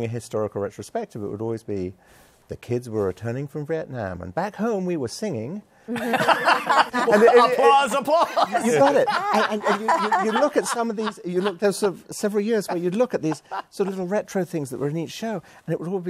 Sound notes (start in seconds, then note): 5.9 laughter